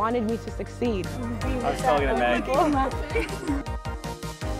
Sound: chatter

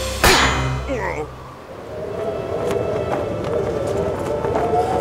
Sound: wind blowing

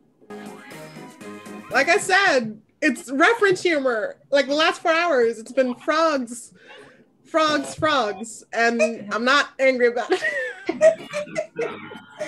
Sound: laughs

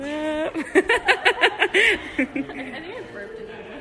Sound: laugh

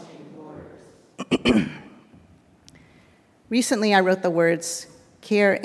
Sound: clears throat

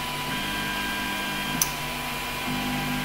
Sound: click

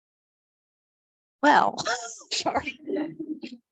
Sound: board laughs

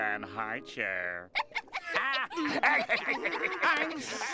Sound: laughing

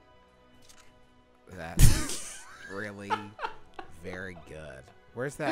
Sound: laughing

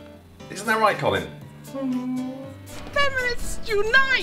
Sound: whimpering

